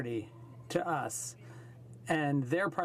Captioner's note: speaking French